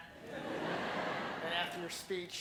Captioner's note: laughing